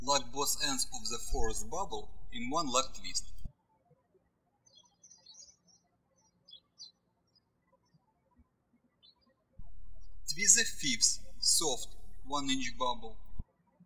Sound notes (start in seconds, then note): 4.0 birds chirping